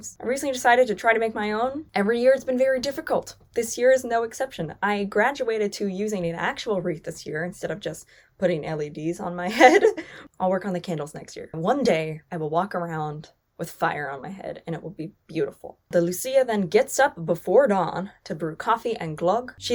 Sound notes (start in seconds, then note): 9.5 laughs